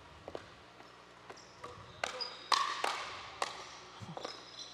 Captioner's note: pickleball thudding